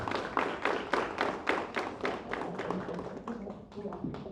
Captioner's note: applause